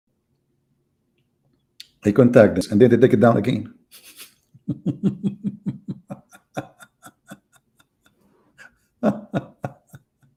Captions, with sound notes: mereka menghubungi kami dan kemudian mereka menurunkannya semula [Ketawa]